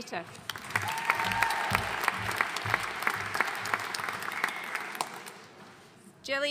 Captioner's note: audience cheering and applauding